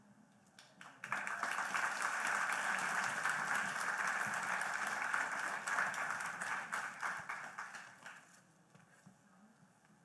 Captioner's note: applause